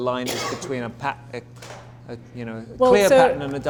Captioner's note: coughs